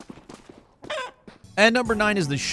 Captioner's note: chicken clucks